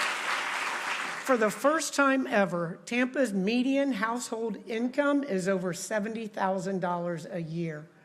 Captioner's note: applause